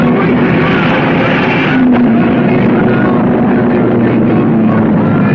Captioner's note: cars screaming